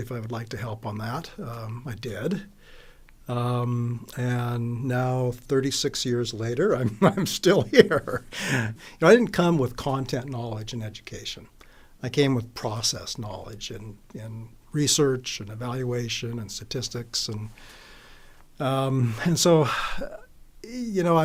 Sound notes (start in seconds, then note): 7.6 laughs